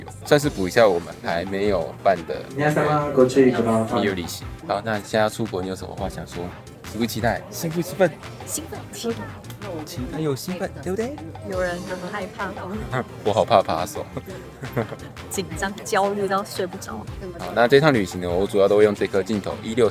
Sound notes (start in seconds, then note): 2.6 broadcast interference